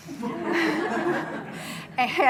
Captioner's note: audience laughs